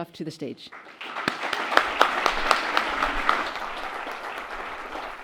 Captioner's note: audience applauds